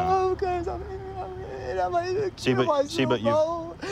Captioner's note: crying